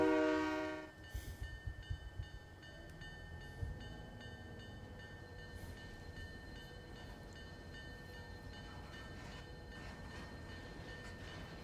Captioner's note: train whistle